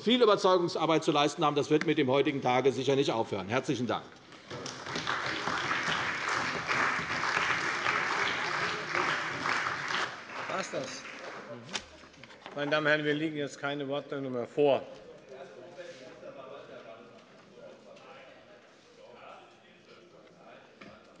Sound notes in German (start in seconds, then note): 4.4 Beifall bei der CDU und dem BÜNDNIS 90/DIE GRÜNEN